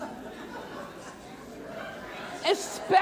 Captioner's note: audience laughing